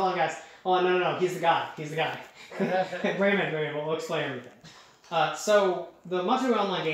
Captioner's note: chuckling